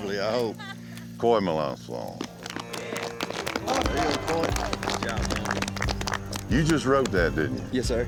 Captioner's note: applause